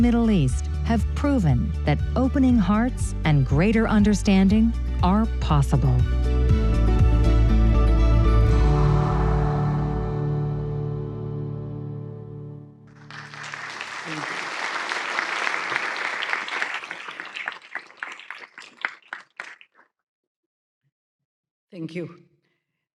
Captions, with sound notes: proven that opening hearts and greater understanding are possible. [APPLAUSE] Thank you.